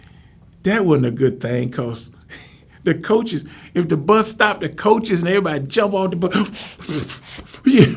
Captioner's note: puff puff